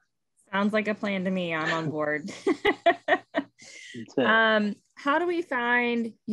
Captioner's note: laughing